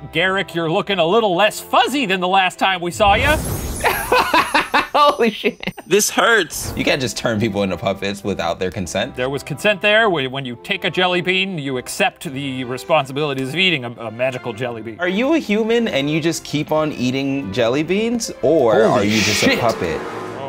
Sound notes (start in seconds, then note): 3.8 laughing